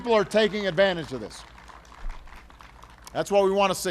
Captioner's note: applause